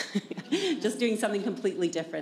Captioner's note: chuckle